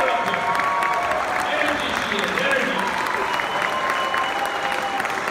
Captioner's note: audience clapping and cheering